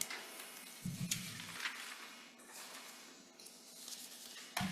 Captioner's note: paper rustling